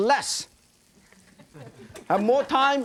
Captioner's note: audience laughing